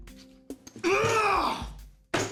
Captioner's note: shouts